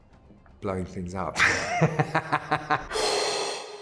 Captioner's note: laughs